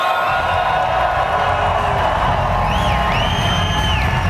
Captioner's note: audience cheers